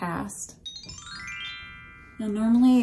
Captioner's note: magical chime